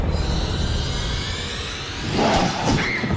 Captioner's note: growls; Reenactment Bryn screams